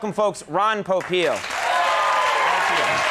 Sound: crowd applauds

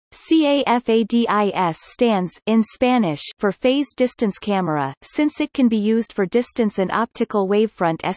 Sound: in Spanish

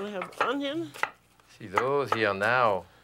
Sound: knife chopping

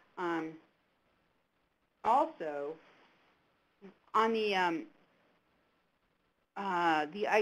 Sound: silence

